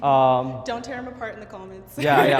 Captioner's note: laughs